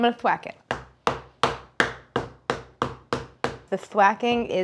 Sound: dough whacking

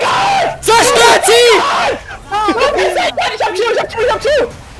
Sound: screaming

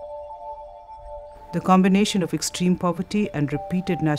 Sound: voice-over

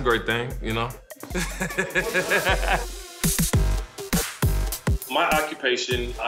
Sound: laughs

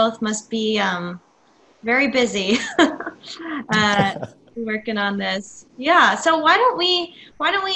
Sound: chuckles

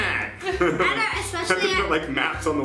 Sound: laughing

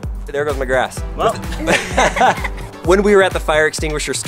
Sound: laugh

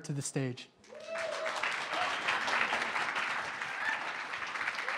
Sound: applause

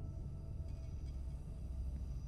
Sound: none

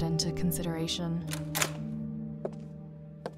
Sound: door opens

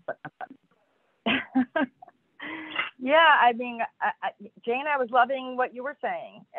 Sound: laughs

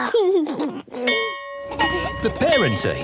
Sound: giggles; bell ringing

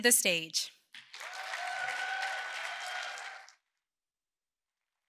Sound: audience cheering

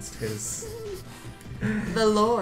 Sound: snickering

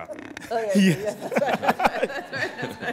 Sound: laughter

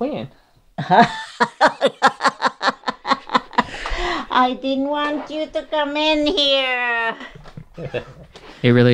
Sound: laughter

